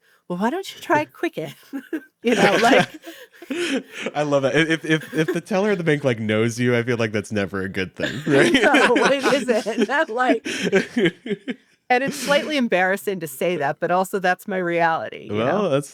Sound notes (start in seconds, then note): 2.2 all laughing; 8.0 laughs